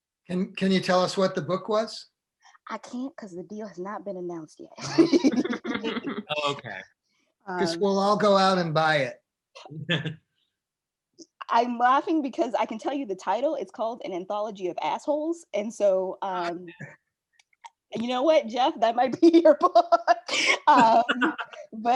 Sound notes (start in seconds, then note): 4.8 all laughing; 19.7 laughing; 19.8 all laughing